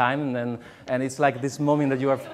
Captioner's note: laughs